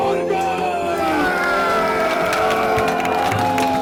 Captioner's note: cheering